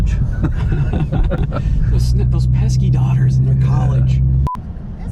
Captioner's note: laughs